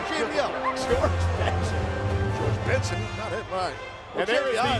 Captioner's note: laughing